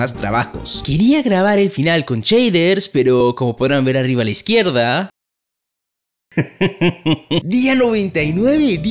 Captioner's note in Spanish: risas